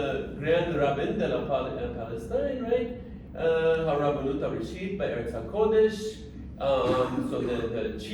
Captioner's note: non-english speech